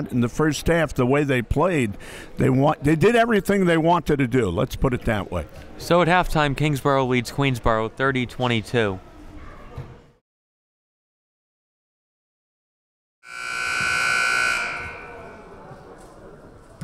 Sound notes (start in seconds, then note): 13.2 clock buzzes